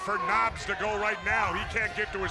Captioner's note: crowd chatter